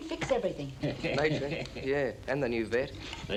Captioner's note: Bartlett chuckling